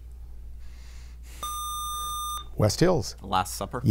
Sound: buzzer

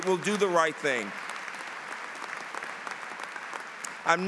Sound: applause

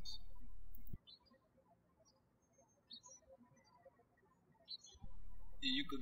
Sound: birds chirping

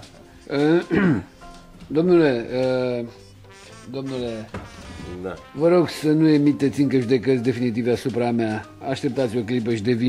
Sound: clears his throat

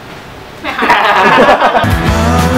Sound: laugh

